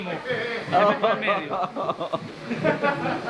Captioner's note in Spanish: risas